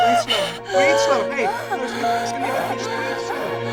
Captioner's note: Rose breathing heavily; melancholy music